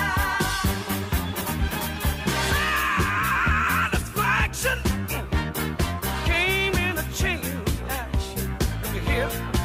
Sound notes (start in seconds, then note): 2.5 scream